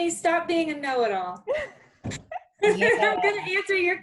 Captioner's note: laughing